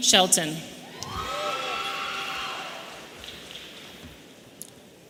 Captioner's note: audience cheering